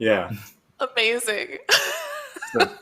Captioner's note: laughs